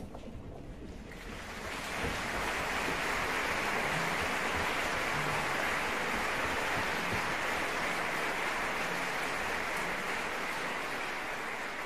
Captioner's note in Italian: applauso